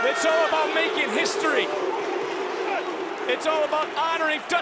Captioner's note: crowd booing